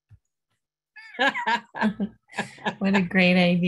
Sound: laughs

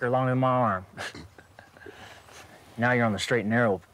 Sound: both chuckling

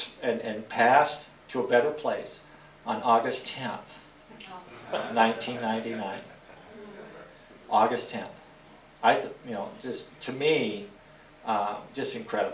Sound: laughter

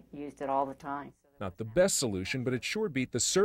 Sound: voiceover

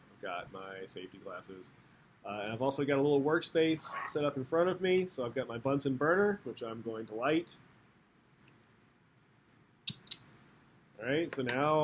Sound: click

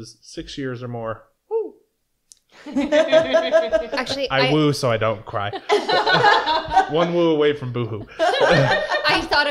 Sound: laughter, "woo"; laughter

